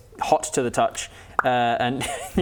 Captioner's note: pop